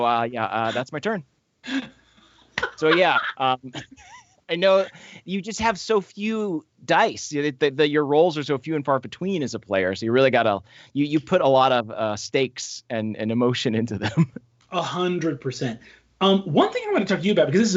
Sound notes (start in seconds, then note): 2.6 laughing